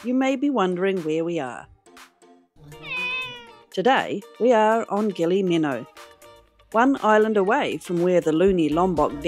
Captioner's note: cat meow